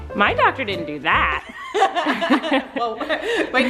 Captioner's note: laughing